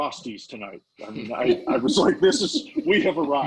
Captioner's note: laughing